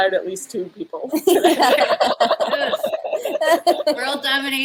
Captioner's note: laughter